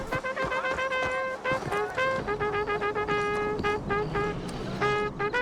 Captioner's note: trumpetting